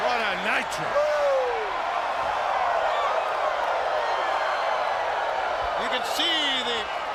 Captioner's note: crowd cheering continues